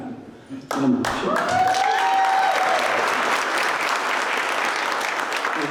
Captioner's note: applause